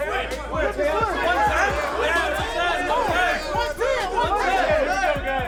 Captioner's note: shouting